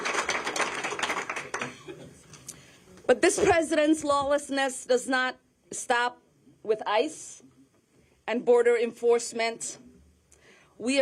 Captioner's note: applause